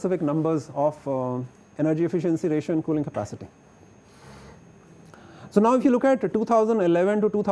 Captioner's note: air conditioning